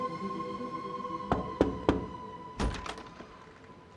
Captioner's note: knocking